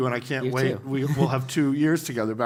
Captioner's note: laugh